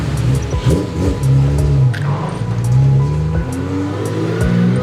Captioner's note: engine revs